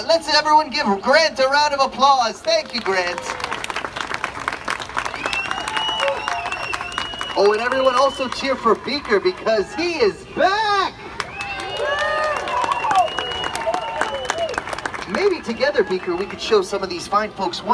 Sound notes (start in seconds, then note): 3.3 audience claps; 11.1 Beaker cheers; 11.2 audience cheers